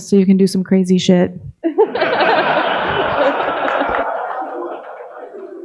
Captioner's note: audience laughing